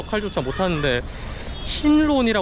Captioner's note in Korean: 스읍